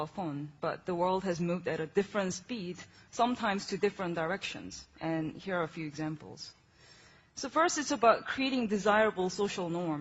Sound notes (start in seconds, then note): none